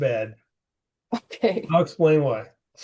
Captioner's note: laughing